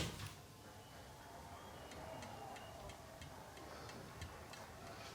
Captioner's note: distant cheering